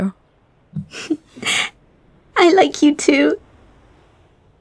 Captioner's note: giggles